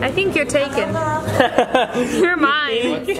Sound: laughs

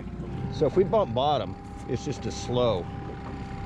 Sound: winch motor running

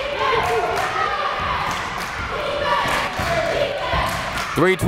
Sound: crowd chanting defense

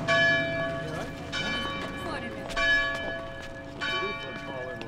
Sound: overlapping chatter

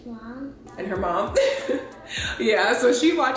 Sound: laughs

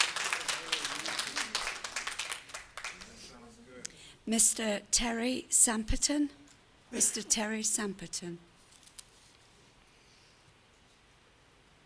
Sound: applause

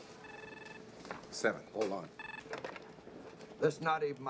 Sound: ring

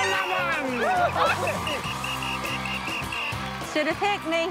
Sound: whistling and cheering

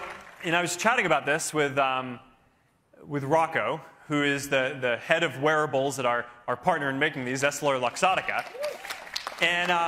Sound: cheering

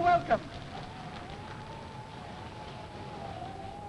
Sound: wind howling

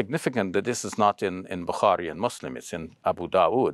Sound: speaks Arabic

